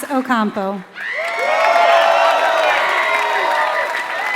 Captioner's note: applause